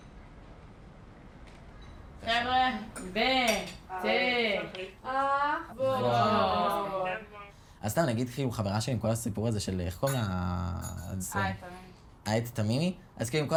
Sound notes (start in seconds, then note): 2.4 speaking foreign language; 7.8 speaking foreign language